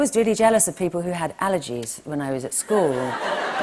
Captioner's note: laughter